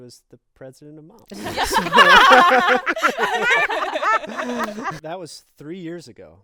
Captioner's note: group laughing